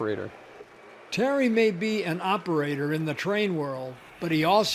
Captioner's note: voiceover